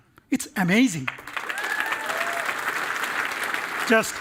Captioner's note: applause